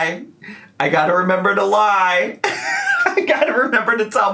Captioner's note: laughs